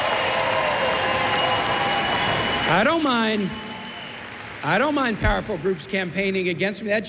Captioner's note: cheers and applause